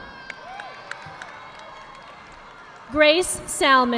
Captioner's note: audience applauding